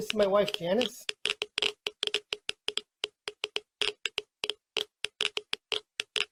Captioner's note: geiger counter clicking